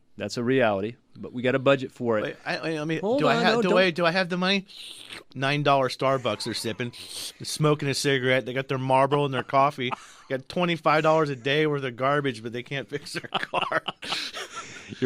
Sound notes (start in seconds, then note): 4.8 slurp noise; 8.8 laughs; 14.2 both laugh